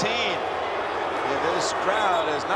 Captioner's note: crowd booing